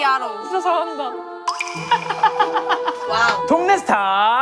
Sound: tearful

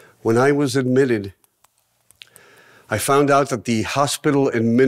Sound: none

